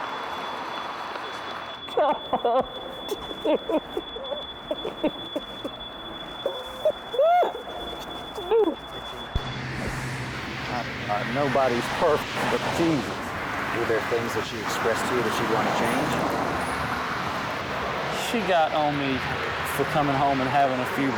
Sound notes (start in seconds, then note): 1.9 cries